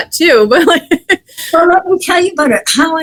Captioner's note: laughs